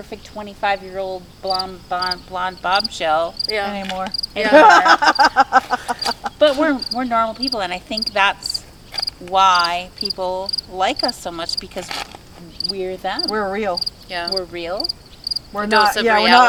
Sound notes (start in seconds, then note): 4.4 people laughing